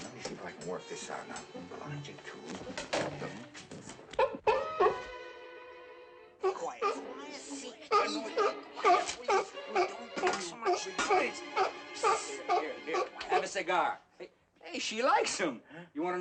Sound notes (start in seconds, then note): 4.2 seal barks; 8.8 barking